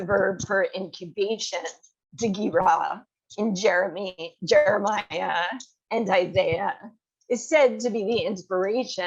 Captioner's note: hebrew